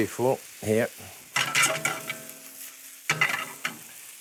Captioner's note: sizzling